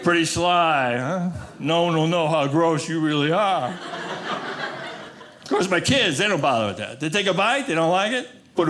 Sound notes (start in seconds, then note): 3.6 audience laughing